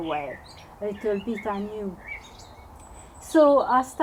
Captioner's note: birds chirping